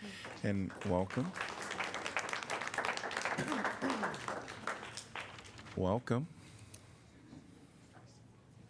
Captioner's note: applause